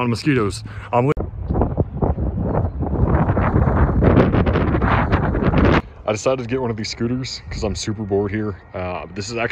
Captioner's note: wind noises